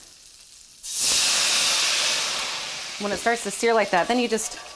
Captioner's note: wine sizzles